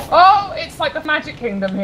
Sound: poom

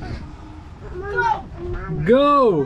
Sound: groaning

